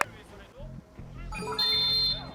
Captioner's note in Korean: 호루라기 소리